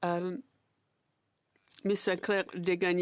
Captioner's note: speaking French